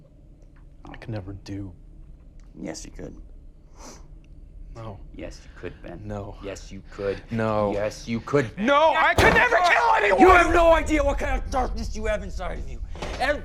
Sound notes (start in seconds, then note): 3.4 Tyler sniffs